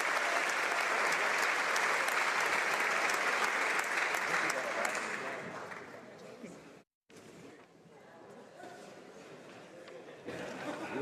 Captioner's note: applause